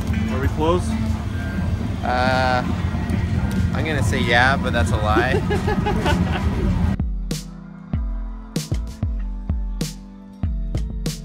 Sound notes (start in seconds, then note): 5.1 laughing